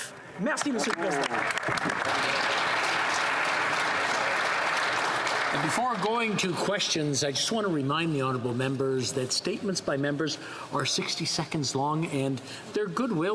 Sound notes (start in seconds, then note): 4.5 applause